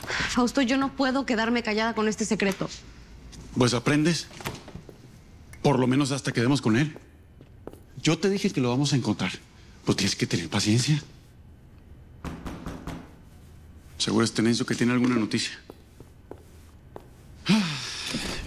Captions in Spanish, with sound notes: - Fausto, yo no puedo quedarme callada con este secreto. - Pues aprendes, por lo menos hasta que demos con él. Yo te dije que lo vamos a encontrar. Pero tienes que tener paciencia. [Toques en la puerta] - Seguro es Tenencio que tiene alguna noticia.